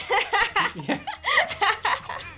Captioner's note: both laughing